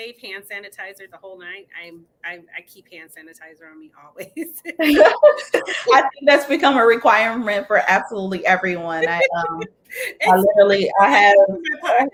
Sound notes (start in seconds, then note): 4.2 laughing; 8.6 laughing